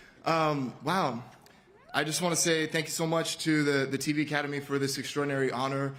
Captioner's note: cheers and applause